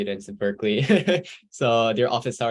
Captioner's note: laughs